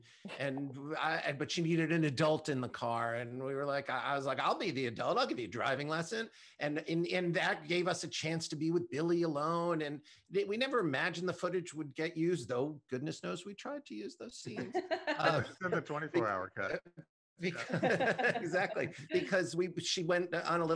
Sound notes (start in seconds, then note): 14.9 laughs; 17.4 laughter